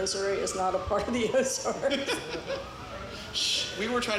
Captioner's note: laughs